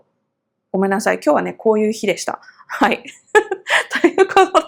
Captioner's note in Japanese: 笑い